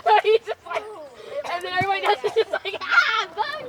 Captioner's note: kids laughing